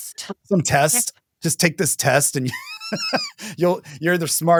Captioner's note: laughs